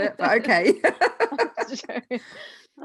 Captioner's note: laughing loudly